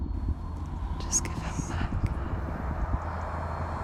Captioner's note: whisper